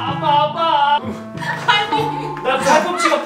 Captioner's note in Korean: 웃음